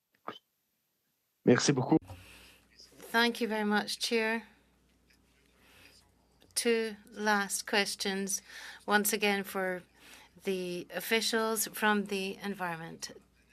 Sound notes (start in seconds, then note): 9.5 speaking French